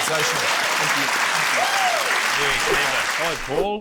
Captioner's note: applause